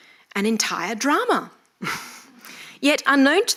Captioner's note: chuckles